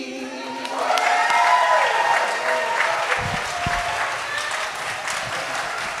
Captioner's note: audience applauding and cheering